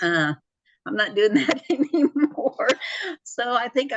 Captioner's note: laughs